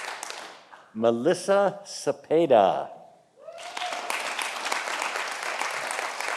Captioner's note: audience applauding